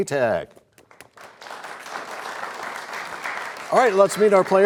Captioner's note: applause